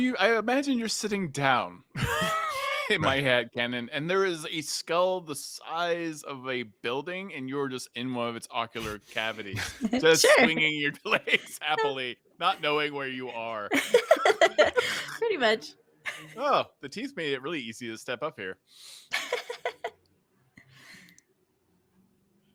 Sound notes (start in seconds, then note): 13.6 Penelope laughs; 19.1 laughs